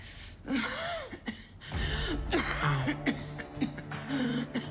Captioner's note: coughs